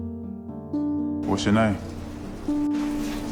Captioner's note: voiceover